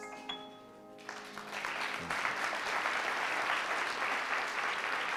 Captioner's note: audience applauding